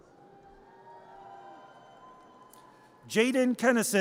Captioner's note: audience cheers